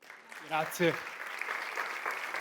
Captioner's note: audience applauds; speaks in foreign language